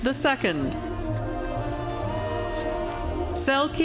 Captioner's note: none